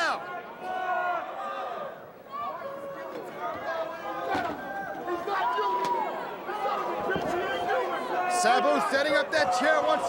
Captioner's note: crowd chatter